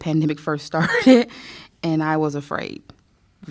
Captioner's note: laughter